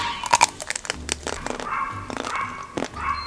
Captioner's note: dog barking